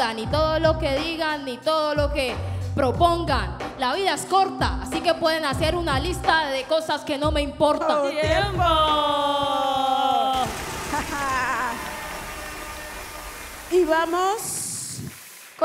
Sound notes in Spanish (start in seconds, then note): 10.4 Aplausos